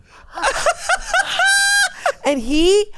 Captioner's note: laughs